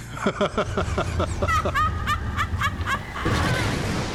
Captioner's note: laughing; cackling